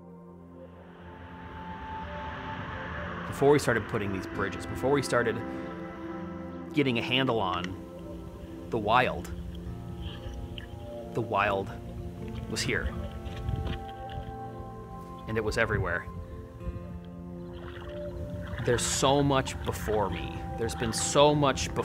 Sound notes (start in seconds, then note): 0.2 soft music; 17.2 water sloshing